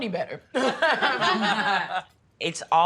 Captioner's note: laughing